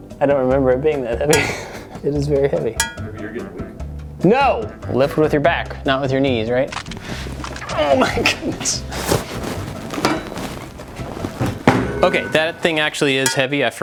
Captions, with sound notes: I don't remember it being that heavy. It is very heavy. (bell dings) - Maybe you're getting weak. - No! Lift with your back, not with your knees, right? Oh my goodness. Okay, that thing actually is heavy.